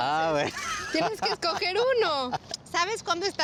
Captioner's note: laughs